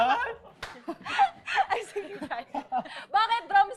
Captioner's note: claps